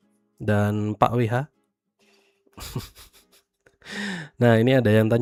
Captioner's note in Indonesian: terkesiap